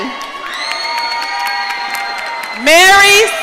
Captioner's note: audience cheering